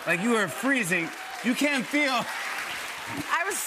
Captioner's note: applause